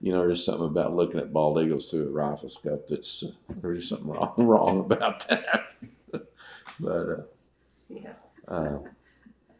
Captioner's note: laughs